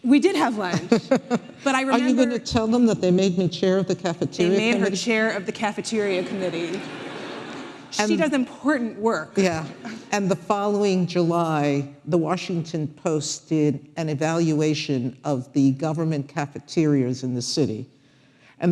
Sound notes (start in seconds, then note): 0.7 laughing; 6.2 audience laughing